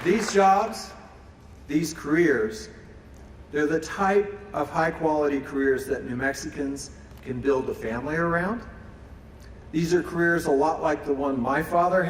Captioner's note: applause